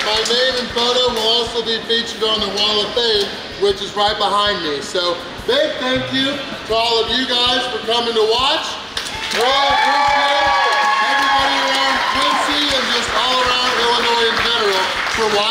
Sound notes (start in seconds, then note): 9.0 crowd cheers; 12.2 crowd clapping